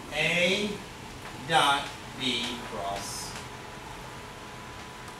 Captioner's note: speaks softly